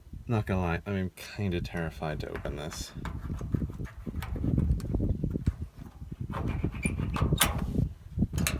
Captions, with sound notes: Not gonna lie...I'm kinda terrified to open this.... *wiggles lock as wind blows through the camera*